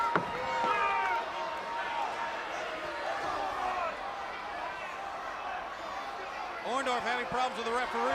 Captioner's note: crowd chatter